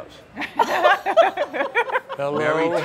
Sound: girls laugh

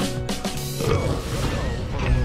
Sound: burp

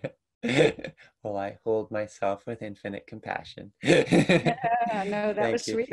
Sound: laughs; laughs

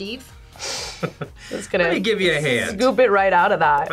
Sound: chuckles

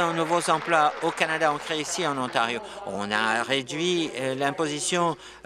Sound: applause

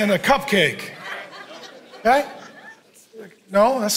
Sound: congregation laughing

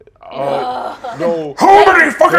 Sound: groans

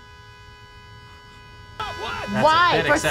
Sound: horn blares

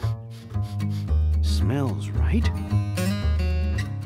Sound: laughing

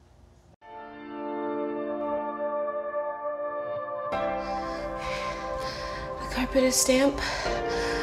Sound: synthesized Piano Music; heavy Breathing

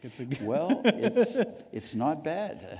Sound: laughter

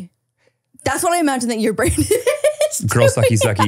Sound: laughs

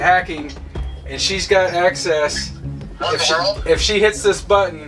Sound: mumbles

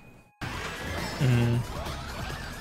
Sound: sensual clown moan

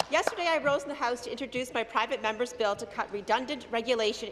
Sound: some Applause

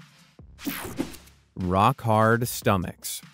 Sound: whooshing

